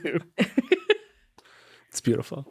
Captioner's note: chuckling